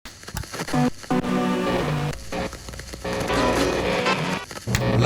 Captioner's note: electricity cackles